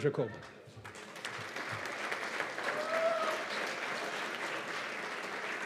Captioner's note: cheers and applause